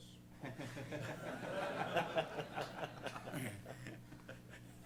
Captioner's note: laughing